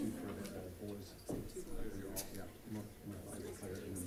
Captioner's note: background chatter